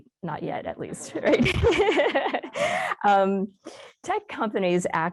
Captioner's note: laughs